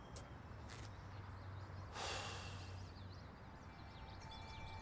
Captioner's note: exhales